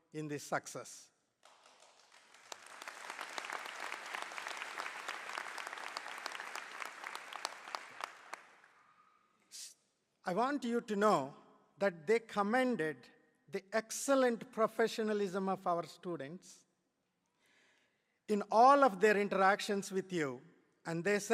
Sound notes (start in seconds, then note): 1.4 applause